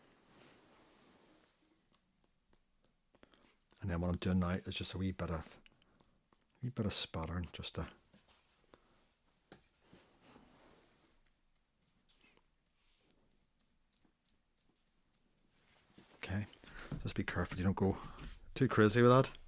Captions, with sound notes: And then what I'm doing now is just a wee bit of, wee bit of spattering. [silence] OK, just be careful you don't go too crazy with that.